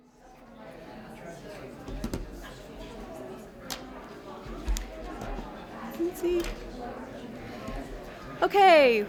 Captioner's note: audience chatter